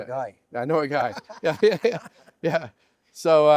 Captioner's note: laughter